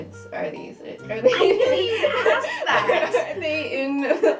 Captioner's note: laughter